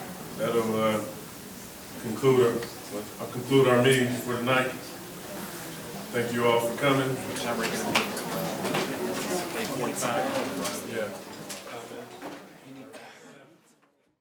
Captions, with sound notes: - That'll conclude our meeting for the night. Thank you all for coming. (background chattering)